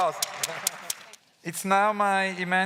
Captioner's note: claps